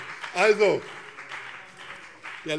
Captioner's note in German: Beifall BÜNDNIS 90/DIE GRÜNEN und vereinzelt CDU